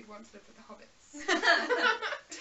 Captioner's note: laughs